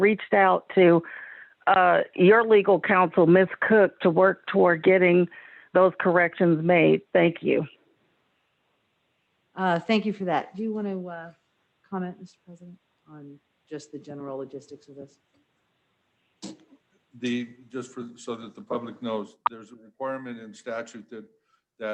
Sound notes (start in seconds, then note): none